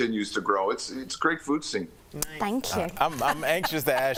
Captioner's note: laughter